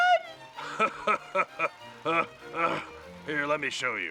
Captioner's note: laughs